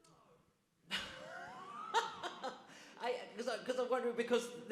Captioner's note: audience laughs